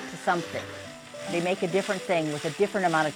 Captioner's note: metallic whirring and cranking